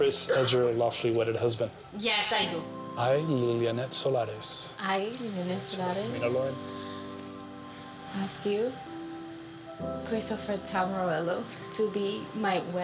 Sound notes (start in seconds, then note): 6.2 speaking in Spanish